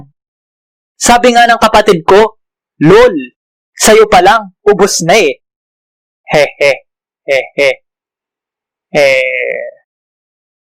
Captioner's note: nervous laugh